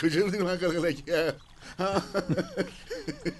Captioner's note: laughter